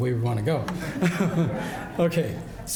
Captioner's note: audience laughs